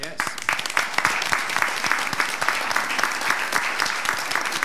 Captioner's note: all applauding